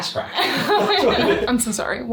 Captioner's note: both laugh